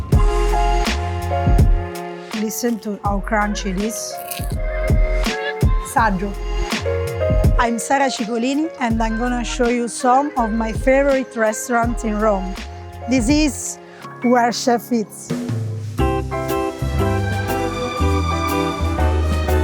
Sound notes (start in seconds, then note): 0.1 bright elegant music; 4.1 food crunches; 4.4 elegant music continues; 5.9 speaking in foreign language; 15.9 bright whimsical music